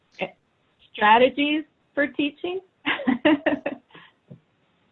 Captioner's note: laughs